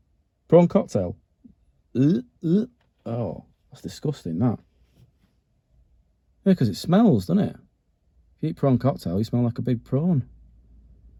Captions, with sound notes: Prawn cocktail? (makes sick noises) oh that’s disgusting, that. 'Cause it smells, doesn't it? If you eat Prawn Cocktail you’ll smell like a big prawn